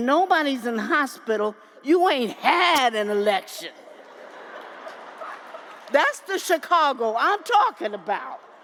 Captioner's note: laughter